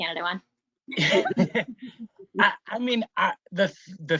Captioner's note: laughs